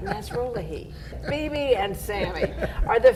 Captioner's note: laughs